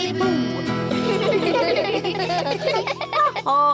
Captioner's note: all giggle